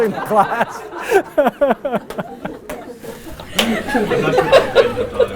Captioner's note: laughter